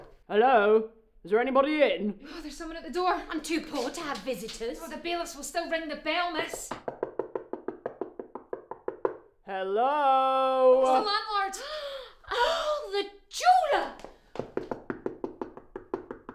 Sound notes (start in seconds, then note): 0.0 door knocking; 6.7 door knocking; 11.6 gasping